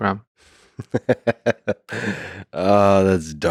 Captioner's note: Lex laughing